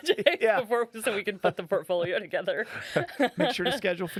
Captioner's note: laughing